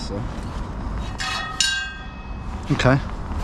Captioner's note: carbineer clangs